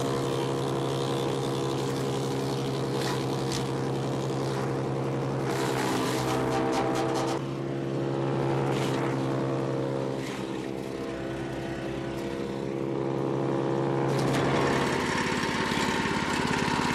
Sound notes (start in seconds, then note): 3.0 branches snap; 9.1 chipper continues grinding